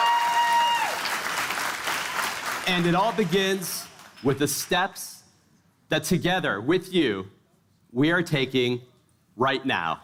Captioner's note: cheers and applause